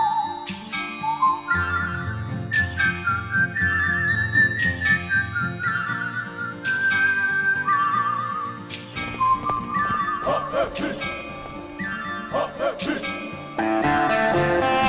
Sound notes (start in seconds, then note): 4.7 light Music; 9.1 chanting